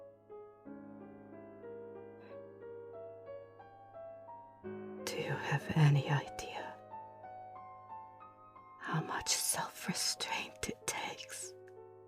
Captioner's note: whispering